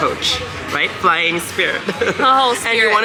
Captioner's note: laughs